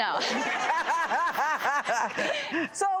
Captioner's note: audience laughs